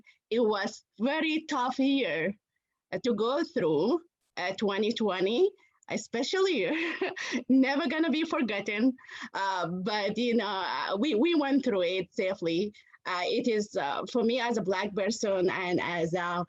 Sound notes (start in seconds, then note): 6.7 laughter